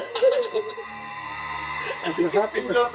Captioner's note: laughter